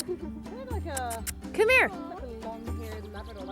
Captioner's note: kissing noises